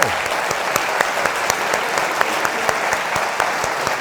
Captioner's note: audience clapping